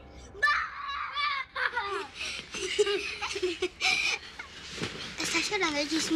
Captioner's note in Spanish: Gritos y risas